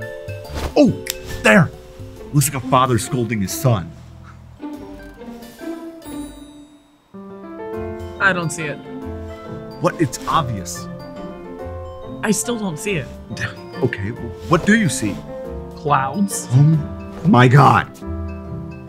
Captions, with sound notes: Oh, there, looks like a father scolding his son. - I don't see it. - What? It's obvious. - I still don't see it. - (sighs) Okay, well, what do you see? - Clouds. - Oh, my God.